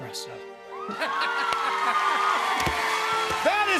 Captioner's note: cheers and applause; laughs